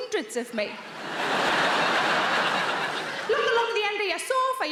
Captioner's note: audience laughing